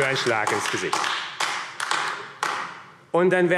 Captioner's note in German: Beifall AfD